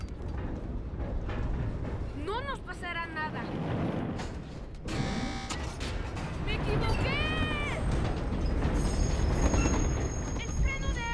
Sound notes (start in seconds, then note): 4.9 buzzing